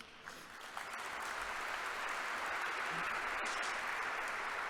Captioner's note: congregation applauding